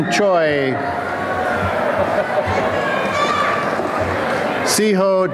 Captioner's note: applause and cheering